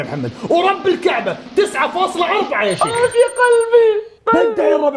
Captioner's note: pained